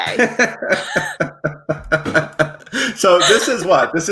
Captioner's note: both laugh